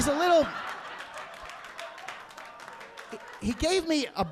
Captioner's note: audience laughing